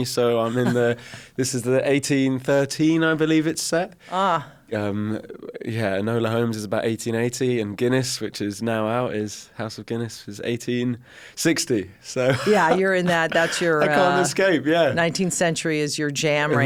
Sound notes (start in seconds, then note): 12.2 chuckles